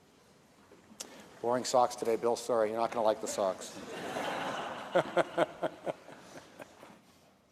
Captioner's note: laughter